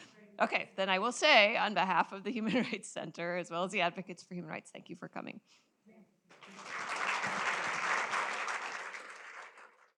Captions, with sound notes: Okay. Then I will say on behalf of the Human Rights Center as well as the Advocates for Human Rights, thank you for coming. [applause]